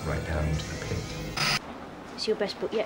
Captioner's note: static hissing